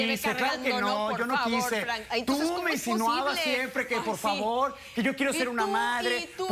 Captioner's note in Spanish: Comentarios al unísono